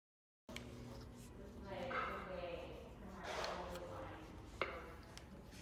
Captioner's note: indistinct conversation